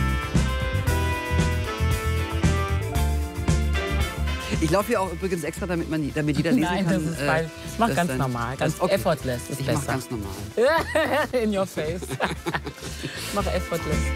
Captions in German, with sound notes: Ich lauf auch extra, dass es jeder lesen kann ... Mach ganz normal. Effortless. Das ist besser. - Ich mach normal. (lacht:) In your face. Mach effortless.